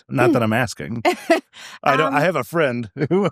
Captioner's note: laughing